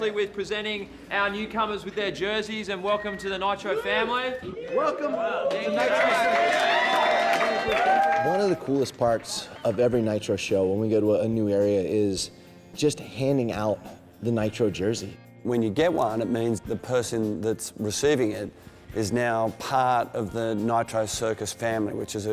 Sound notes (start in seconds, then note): 6.9 applause; 6.9 cheering